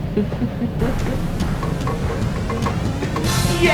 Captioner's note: laughs